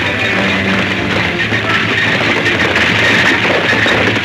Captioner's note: horse hooves clomping